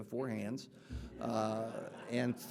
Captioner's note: audience laughing